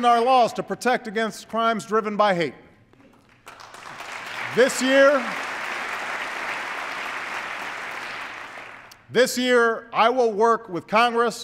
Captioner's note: applause